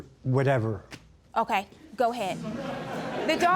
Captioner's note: audience chuckling